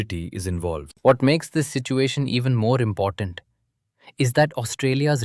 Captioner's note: thoughtful